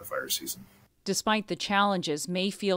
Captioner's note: voice-over